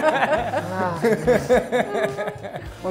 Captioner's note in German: Lachen; Er stöhnt